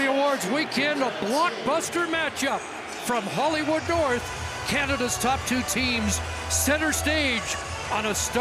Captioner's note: cheering and Applause